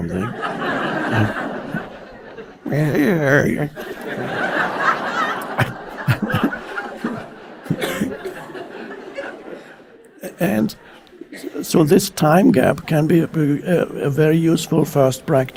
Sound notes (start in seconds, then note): 0.2 audience laughing; 2.7 Eckhart growls and laughs